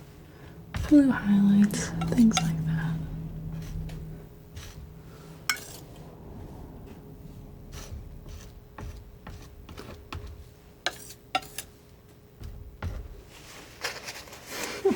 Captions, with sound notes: blue highlights and things like that (tapping)